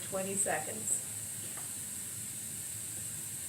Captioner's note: water spraying